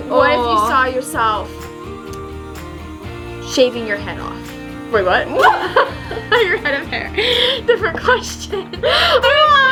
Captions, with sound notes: - What if you saw yourself shaving your head off. Wait what? (laughing) I meant your head of hair. (laughs) Different question.